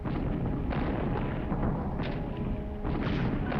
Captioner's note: tank firing